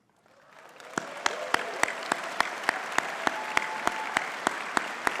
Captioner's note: audience cheering and clapping